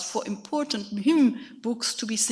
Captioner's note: speaks in a foreign language